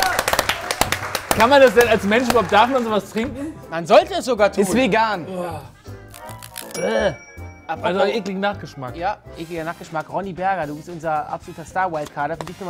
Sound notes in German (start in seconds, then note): 5.2 Angeekelter Laut